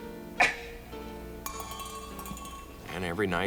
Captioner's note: gentle music continues; cup clanking